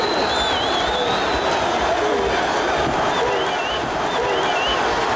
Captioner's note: audience cheering